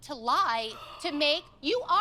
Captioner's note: gasps